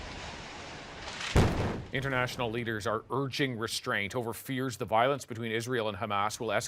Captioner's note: explosion